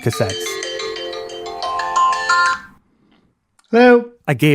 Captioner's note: sound of phone ringing